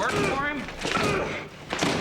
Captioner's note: Eldon grunting throughout